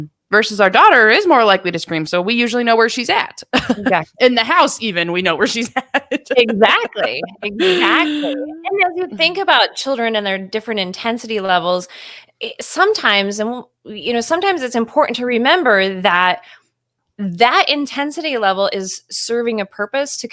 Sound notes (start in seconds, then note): 3.3 laughing; 5.4 laughing